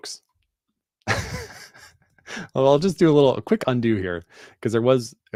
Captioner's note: chuckles